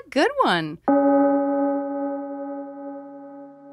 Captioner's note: bell gong